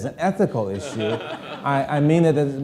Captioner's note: audience laughing